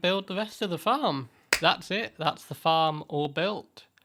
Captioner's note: clap